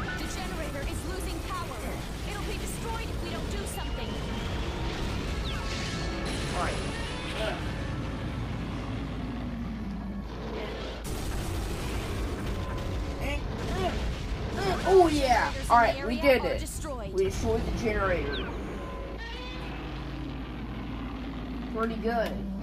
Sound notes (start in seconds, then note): 8.3 roars; 10.0 growling; 14.4 me grunting; 18.7 roars victoriously